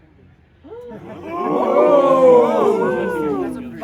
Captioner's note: crowd gasps